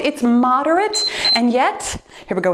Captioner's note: timer beeps